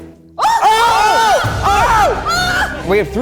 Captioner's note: everyone exclaims